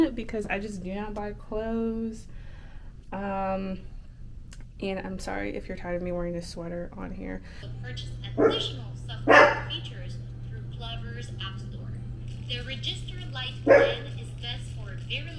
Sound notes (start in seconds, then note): 8.0 voice talking out of phone; 9.2 Harley barking